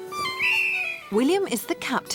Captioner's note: whistle blows